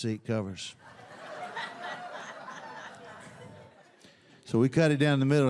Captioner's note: audience laughs